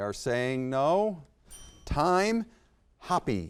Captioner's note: bell dings